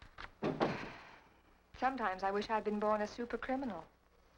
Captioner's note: sighs